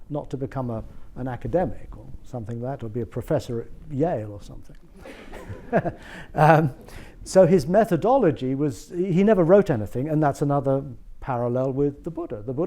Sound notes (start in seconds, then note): 5.0 audience laughs